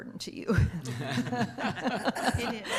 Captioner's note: laughing